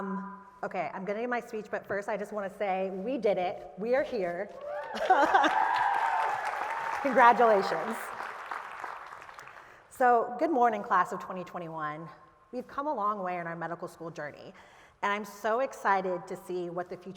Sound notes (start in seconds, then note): 4.6 applause; 4.8 laughter